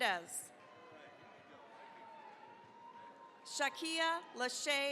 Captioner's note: cheering, applause